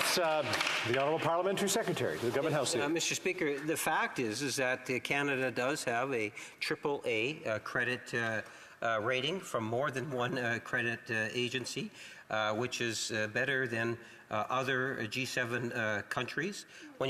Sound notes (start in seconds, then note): 1.6 applause